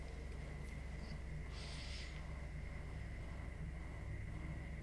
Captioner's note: muffled exhale